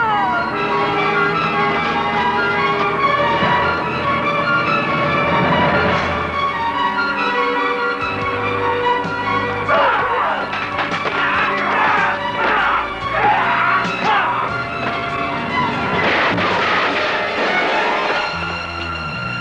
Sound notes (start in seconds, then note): 16.2 gunshots